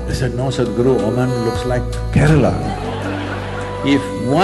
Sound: laughter

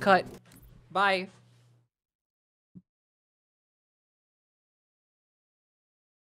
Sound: game noises all stop

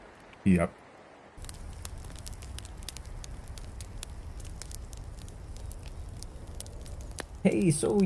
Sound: fire crackling

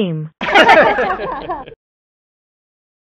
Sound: laughing

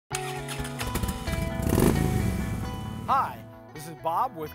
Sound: upbeat instrumental music; motorcycle revs loudly

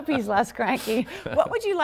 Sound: laughter

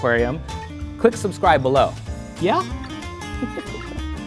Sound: chuckle

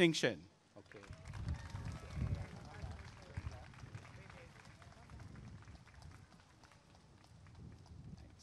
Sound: applause and cheering

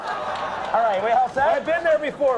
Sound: crowd laughs

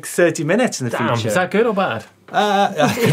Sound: laughs

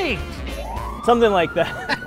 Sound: police sirens wail; laughs

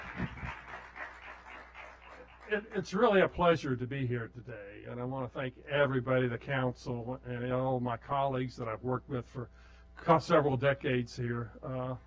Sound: clapping

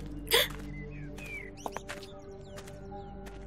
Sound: gasps

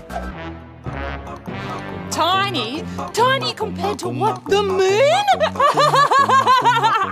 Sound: laughs manically

